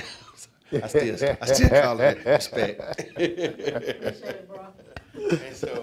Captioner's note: panelists laughing